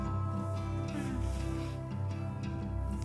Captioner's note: doorbell ringing; Nina moans